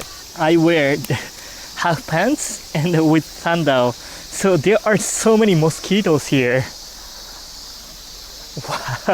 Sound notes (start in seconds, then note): 0.2 hand slaps